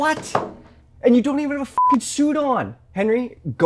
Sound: beep

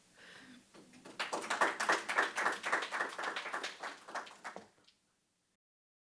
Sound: participants applaud

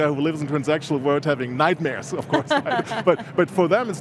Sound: laughs

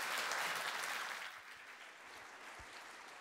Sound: applause

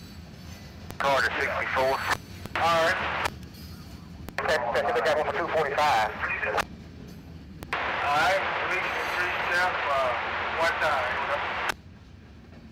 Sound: radio chatter

